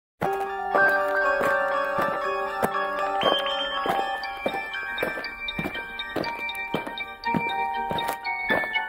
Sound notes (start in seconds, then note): 0.2 aliens marching; 0.2 eerie music